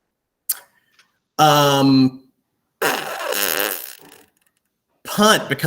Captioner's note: blows raspberry